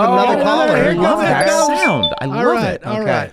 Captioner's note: internet phone ringing